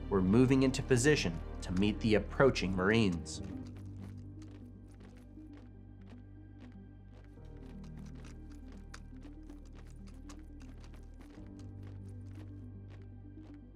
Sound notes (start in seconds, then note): 4.7 light music; 7.5 footsteps stomping